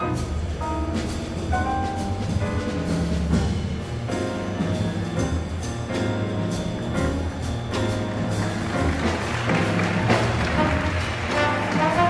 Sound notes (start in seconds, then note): 8.2 audience applauding